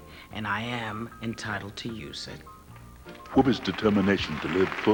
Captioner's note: applause